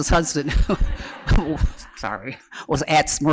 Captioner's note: laughter